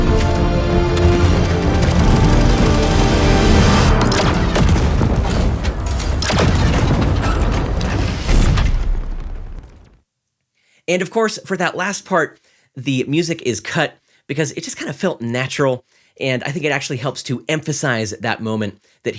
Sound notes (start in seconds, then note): 4.4 dramatic music ends abruptly; 6.3 gunshots sounding